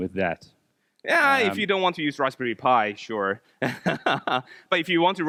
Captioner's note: laughs